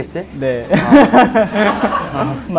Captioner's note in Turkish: gülmek